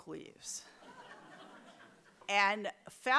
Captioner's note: audience laughs